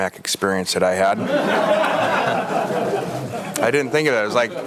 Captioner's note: audience laughs